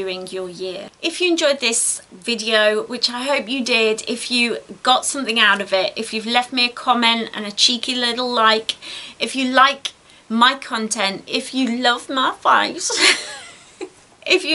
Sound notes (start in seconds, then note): 12.9 giggles